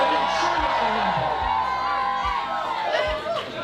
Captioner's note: crowd cheering